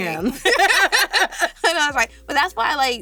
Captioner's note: laughs